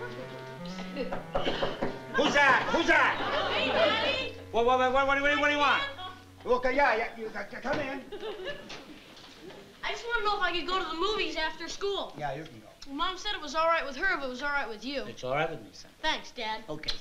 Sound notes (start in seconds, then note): 1.1 knocking